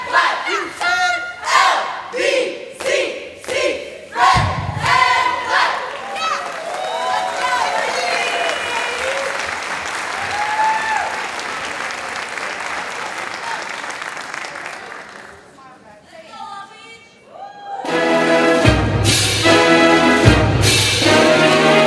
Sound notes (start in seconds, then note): 6.4 audience applauding; 17.9 marching band music playing